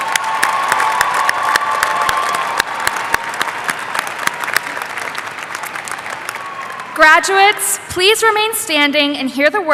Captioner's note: applause